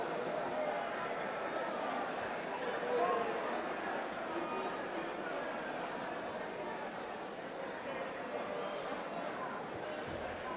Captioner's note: crowd chatter